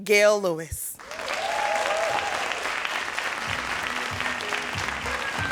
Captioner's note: audience cheering and applauding; lively music